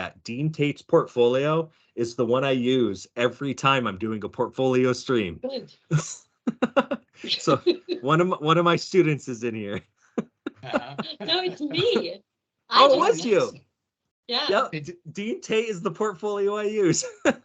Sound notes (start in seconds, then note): 6.4 laughing; 10.2 laughing; 16.4 laughing